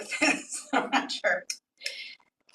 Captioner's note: laughs